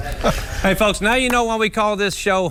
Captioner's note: laughter